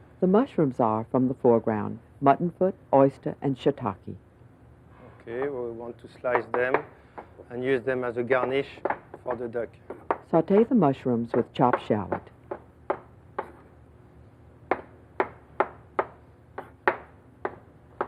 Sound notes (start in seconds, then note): 10.4 voiceover